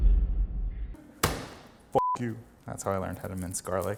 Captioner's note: crashing sound effects; fist thumps; beep